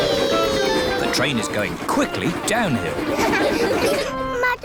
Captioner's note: laughter